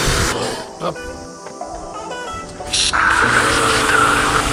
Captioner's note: laughs